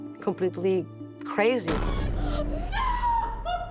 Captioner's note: sobs